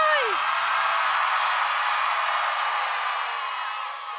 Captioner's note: crowd cheering